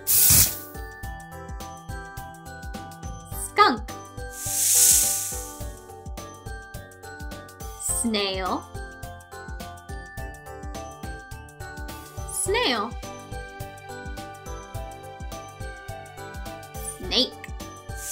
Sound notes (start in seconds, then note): 0.0 skunk hissing; 4.3 skunk hissing; 17.9 snake hissing